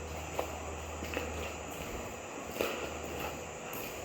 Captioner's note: footsteps thudding